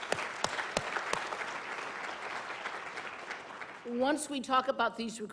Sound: applause

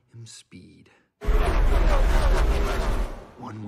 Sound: vroom Vroom

